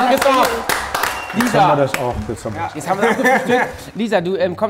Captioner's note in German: Kichern